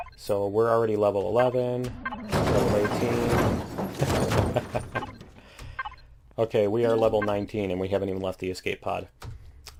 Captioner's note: klaxon; laughs